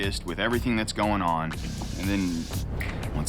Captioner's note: snaps fingers